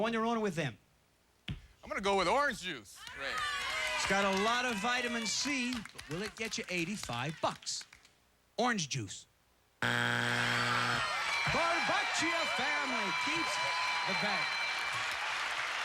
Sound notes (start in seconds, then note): 9.8 buzzer